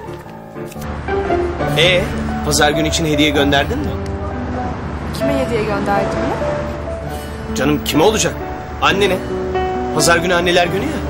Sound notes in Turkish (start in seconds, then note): none